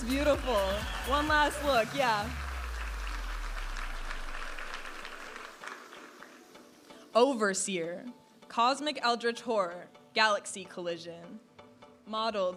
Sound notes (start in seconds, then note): 3.4 audience applauding and cheering; 5.6 upbeat music